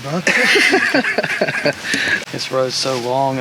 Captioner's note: investigators laugh